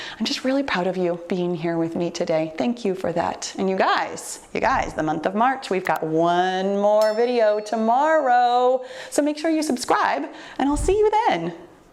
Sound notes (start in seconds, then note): 7.0 bell rings